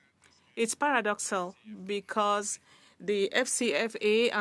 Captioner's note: speaking French